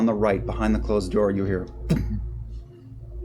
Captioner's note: impact